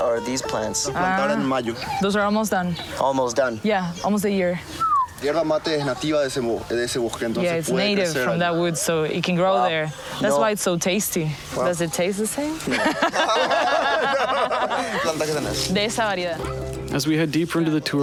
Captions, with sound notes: These plants here, how many months are these plants? (Speaking In Foreign Language) Those are almost done. Almost done. Yeah, almost a year. (Speaking In Foreign Language) Yeah, it's native from that wood, so it can grow there. That's why it's so tasty. Does it taste the same?